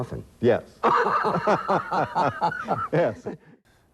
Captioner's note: laughing